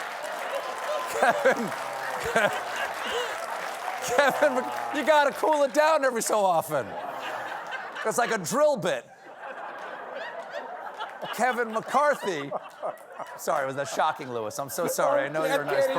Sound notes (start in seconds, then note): 0.9 laughter; 3.5 applause